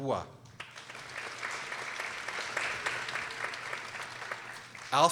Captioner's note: people applauding